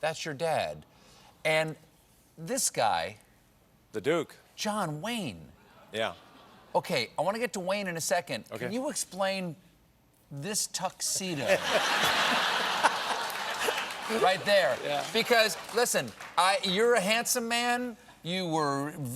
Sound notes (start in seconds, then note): 15.8 applause; 15.8 laughter